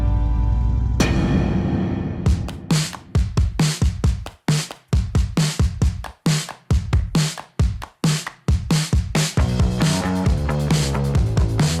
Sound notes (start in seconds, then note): 0.1 logo bangs; 2.6 energetic music